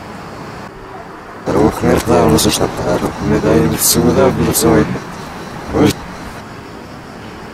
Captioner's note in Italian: incomprensibile linguaggio robotico